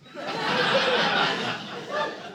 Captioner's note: audience laughing